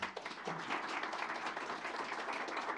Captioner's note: applause